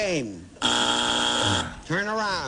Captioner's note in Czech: bzučák